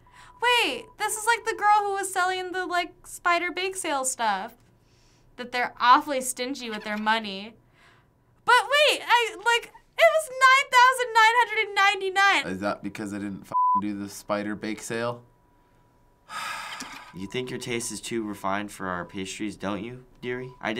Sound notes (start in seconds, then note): 16.3 sighing